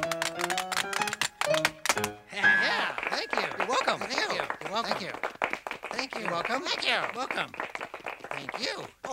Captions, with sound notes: - Hey. - Yeah. (Muppets applauding) - Thank you! - You're welcome. (Muppets applauding) - Thank you, thank you. - You're welcome. - Thank you! - Welcome!